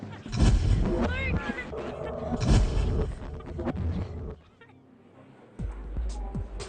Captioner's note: cries softly; calm music